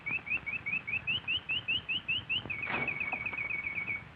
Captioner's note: bird chirping